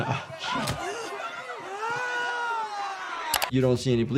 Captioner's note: mourner gasping and groaning; head thudding